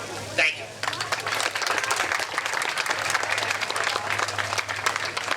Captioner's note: crowd clapping